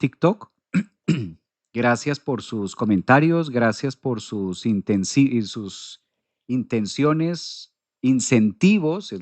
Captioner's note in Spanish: carraspeo